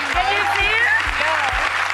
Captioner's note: audience cheering